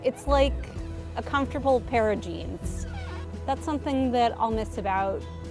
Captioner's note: seat squeaks